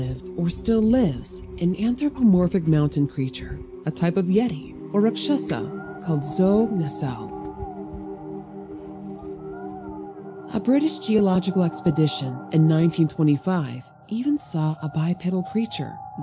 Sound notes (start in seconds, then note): none